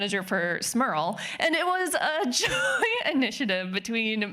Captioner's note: laughing